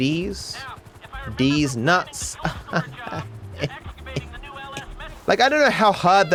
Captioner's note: "tired" laughter